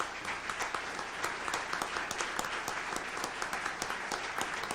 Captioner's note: audience applauds